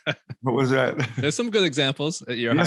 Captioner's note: laughs